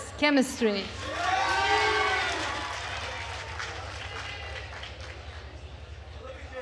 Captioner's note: attendees cheering and applauding